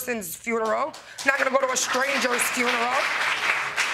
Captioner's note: audience clapping